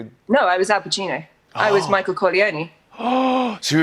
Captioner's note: gasps